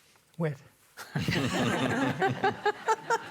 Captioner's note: laughter